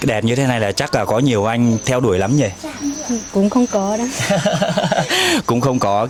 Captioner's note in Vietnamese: tiếng cười